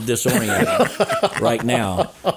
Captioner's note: laughing